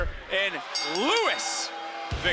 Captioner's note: bell rings